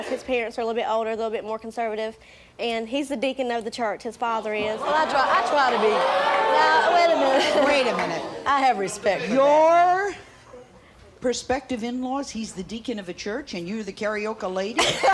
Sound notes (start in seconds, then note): 4.6 audience gasps